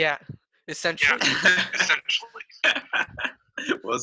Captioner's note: laughing